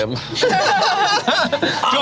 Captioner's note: group laughs